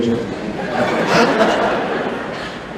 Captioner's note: laughter